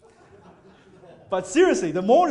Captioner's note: audience laughing